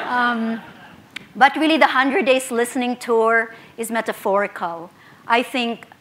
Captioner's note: laughter